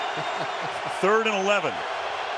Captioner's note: laughs